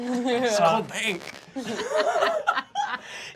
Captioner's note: laughing